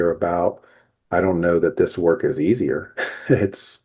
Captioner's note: laughs